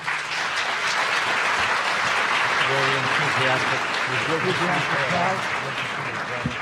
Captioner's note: audience applauding